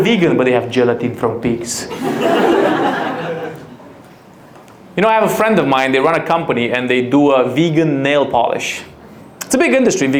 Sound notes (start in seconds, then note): 1.9 audience laughs